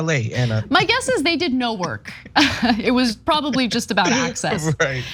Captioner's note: laugh